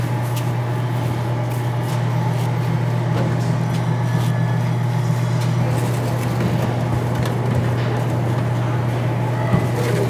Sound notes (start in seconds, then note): 5.3 trays scraping